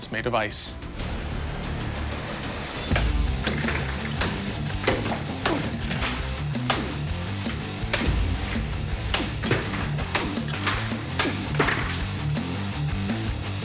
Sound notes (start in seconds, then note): 2.4 ice shattering